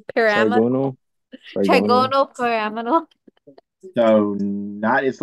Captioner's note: laughs